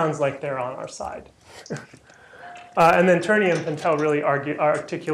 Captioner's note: laughter